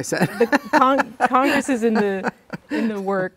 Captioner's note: laughing